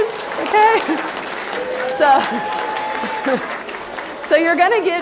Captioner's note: applause